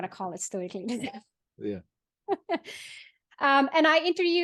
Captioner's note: chuckles